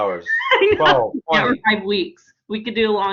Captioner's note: laughs